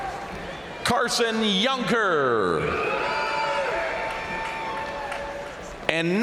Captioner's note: crowd cheering; crowd cheering